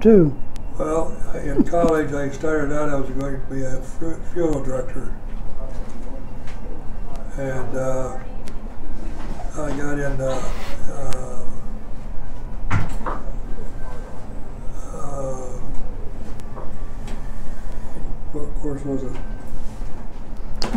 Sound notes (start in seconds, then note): 12.7 people talking and moving in background